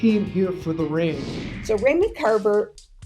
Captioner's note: screen whooshing